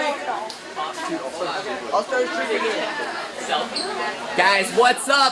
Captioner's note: class chattering